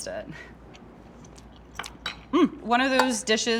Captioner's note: munching